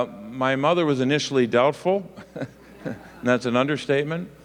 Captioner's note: laughs